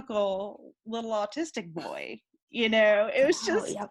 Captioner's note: giggling